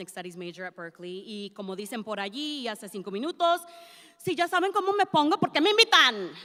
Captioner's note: speaks in Spanish